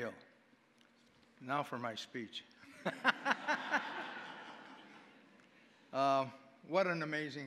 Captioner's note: audience laughing